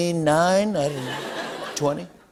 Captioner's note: laughter